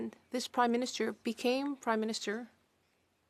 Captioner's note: speaking French